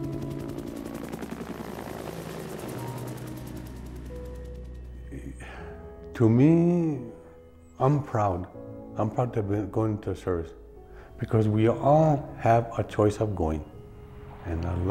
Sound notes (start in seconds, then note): 4.8 helicopter sound